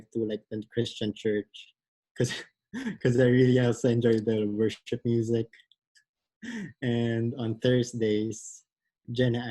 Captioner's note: laughs